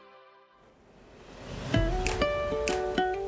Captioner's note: ocean waves hitting a beach; ukulele music